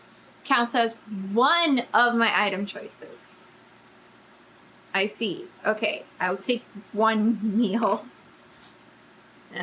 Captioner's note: laughs